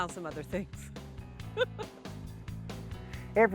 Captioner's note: laughs